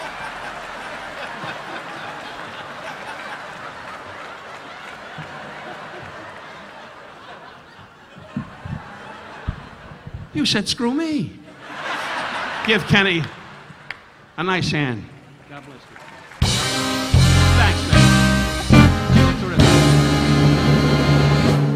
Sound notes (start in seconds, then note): 8.3 audience laughing; 11.4 audience laughing; 16.4 upbeat instrumental music